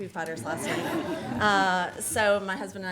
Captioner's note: everyone laughs